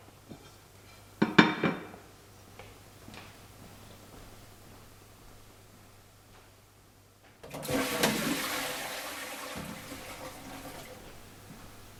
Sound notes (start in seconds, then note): 7.4 toilet flushes